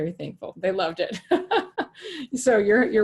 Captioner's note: laughing